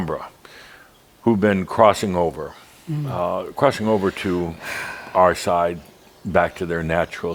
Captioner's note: sighs deeply